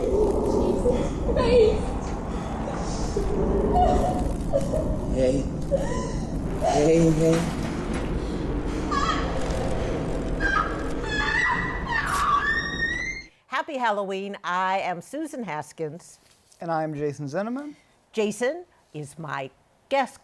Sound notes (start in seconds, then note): 2.7 whimpering; 10.2 shrieking